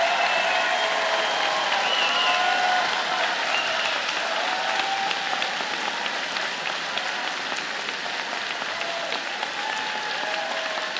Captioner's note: cheers and Applause